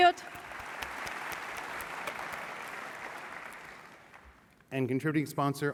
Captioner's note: applause